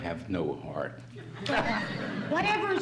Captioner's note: laughs